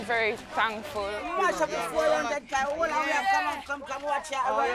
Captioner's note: mixed chattering